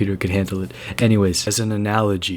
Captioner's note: yet again inhale